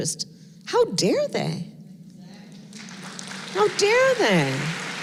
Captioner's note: applause